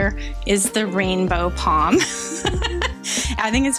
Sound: laughs

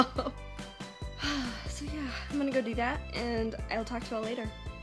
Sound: laughs, sighs

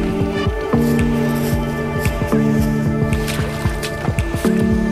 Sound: crunching grass, mud

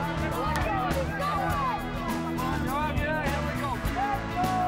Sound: shouting

